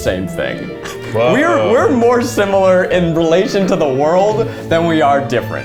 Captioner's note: laughs